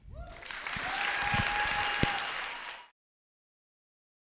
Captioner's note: applause